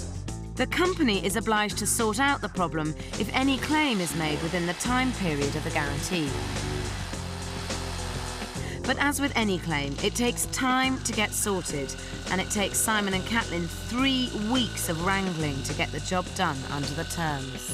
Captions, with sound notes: The company is obliged to sort out the problem if any claim is made within the time period of the guarantee. (power tools whirring) (upbeat music) But as with any claim, it takes time to get sorted, and it takes Simon and Caitlin three weeks of wrangling to get the job done under the terms.